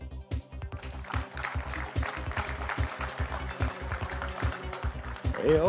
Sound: light music; audience clapping

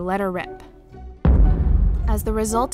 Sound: boom

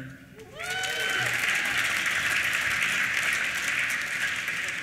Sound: applause

